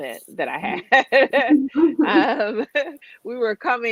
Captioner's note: laughs